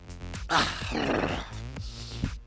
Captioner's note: growling; sniffing